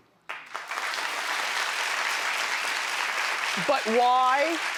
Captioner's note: audience applauding